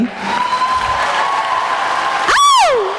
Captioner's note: applause